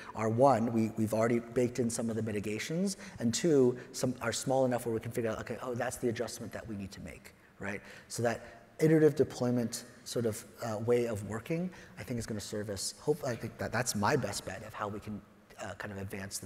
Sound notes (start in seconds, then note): none